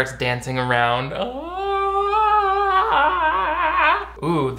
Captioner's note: wailing